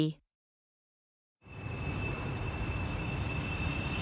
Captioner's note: plane whooshes